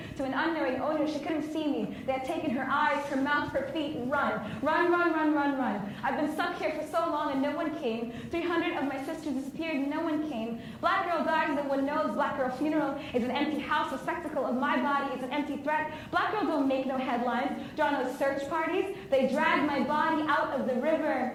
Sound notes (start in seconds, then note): none